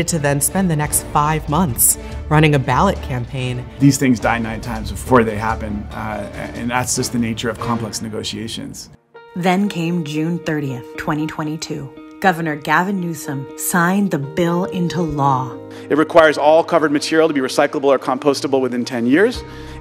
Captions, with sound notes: to then spend the next five months running a ballot campaign. - These things die nine times before they happen, and that's just the nature of complex negotiations. - [Voiceover] Then came June 30th, 2022. Governor Gavin Newsom signed the bill into law. - It requires all covered material to be recyclable or compostable within 10 years.